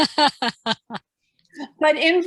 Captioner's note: laughing